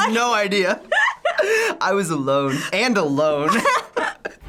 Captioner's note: both laugh